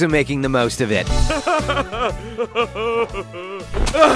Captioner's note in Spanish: ambos aldeanos se ríen